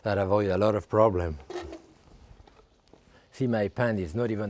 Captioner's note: potatoes thudding softly